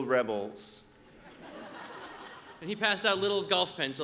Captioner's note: audience laughs